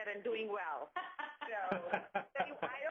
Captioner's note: laughing